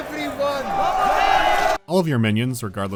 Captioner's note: cheering